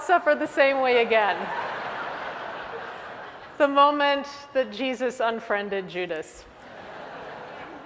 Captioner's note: laugh